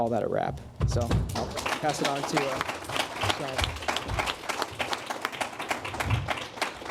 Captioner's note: applause